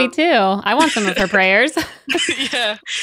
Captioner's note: laughs